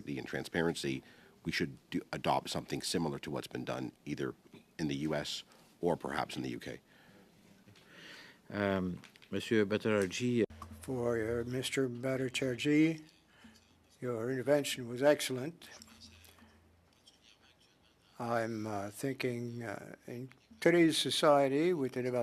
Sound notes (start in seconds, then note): 14.8 speaking French